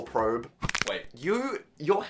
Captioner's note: bone clicking